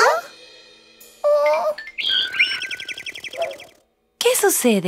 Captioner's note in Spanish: Sonido de pájaro